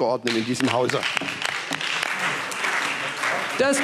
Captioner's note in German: Beifall SPD, Freie Demokraten und DIE LINKE